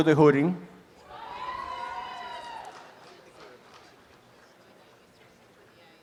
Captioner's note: applause and cheering